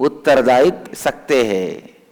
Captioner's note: hindi